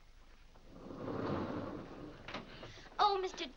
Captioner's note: doors slide open